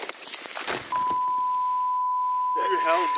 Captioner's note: beeping